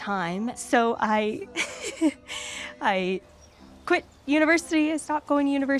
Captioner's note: laughs